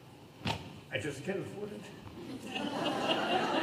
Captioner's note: audience laughter